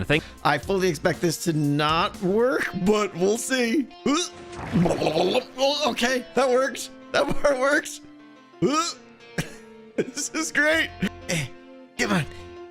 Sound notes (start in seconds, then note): 4.3 gurgles; 9.4 laughs